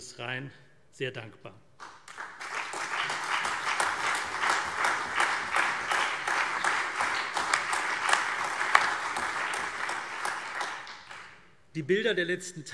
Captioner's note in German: Beifall CDU, BÜNDNIS 90/DIE GRÜNEN, SPD, AfD und Freie Demokraten